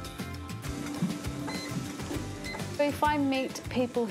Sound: beep! beep!

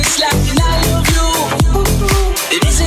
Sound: ooh, ooh

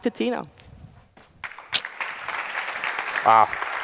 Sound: applause

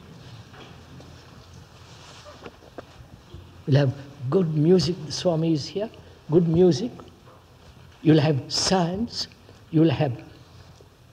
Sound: laughs

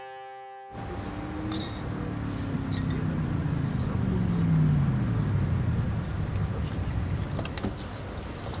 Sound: car sounds

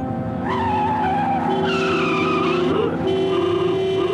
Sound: tyres squealing

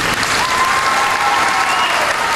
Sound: applause

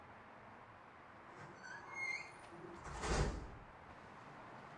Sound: gate opening

